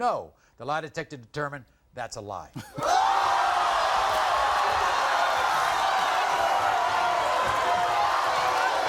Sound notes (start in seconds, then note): 2.3 audience gasping